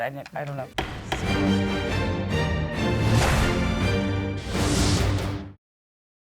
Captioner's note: gavel bangs; dramatic music